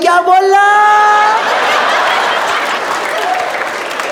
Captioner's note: Imitating someone having immersive pain